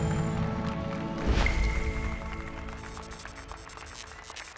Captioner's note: applause and cheers